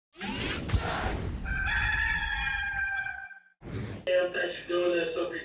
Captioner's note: logo whirs; rooster crows